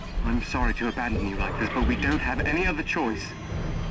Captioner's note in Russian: визг Прыгуна